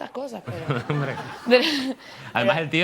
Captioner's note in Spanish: riendo